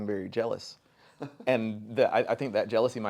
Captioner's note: chuckles